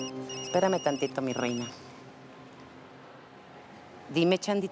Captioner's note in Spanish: Suena el celular